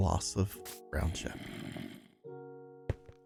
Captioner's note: groaning